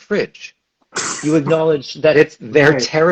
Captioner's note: laughs